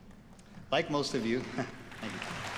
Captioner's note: audience applauds